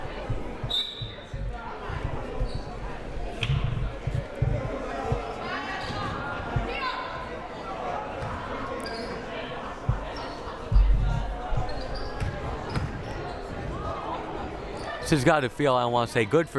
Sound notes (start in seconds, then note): 0.6 whistle blaring; 5.9 crowd murmuring